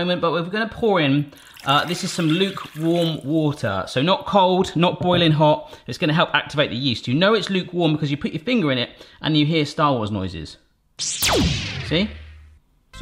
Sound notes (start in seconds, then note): 11.0 electronic zapping; 12.8 upbeat music